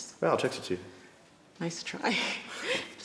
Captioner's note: laughs